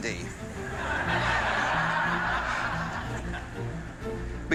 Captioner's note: laughter